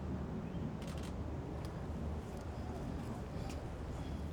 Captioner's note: camera clicks